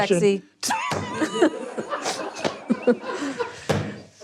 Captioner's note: everyone laughing